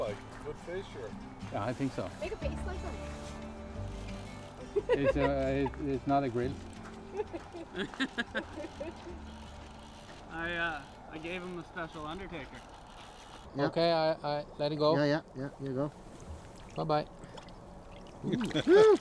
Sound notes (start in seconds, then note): 4.5 laughs; 7.0 all laugh